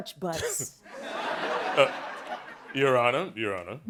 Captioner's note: laughing